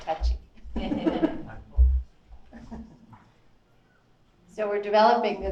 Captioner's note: audience chuckles